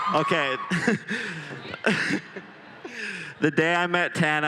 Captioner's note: laughs